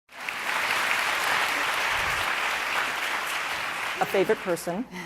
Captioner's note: audience applauding